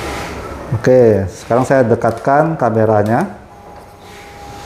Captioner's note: printer machine noise; tripod noise; printer machine noise; tripod noise